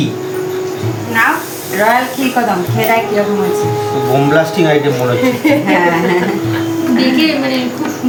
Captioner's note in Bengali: সশব্দ হাসি